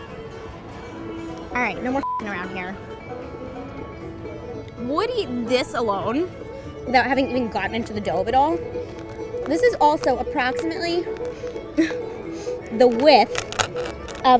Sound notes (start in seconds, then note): 2.0 beeps